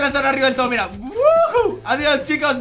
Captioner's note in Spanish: Emocionado